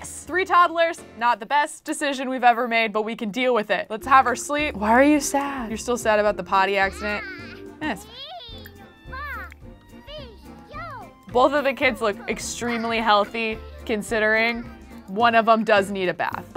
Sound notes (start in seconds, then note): 8.0 child babbling